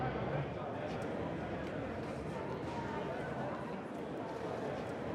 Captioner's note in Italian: brusio e discorsi indistinti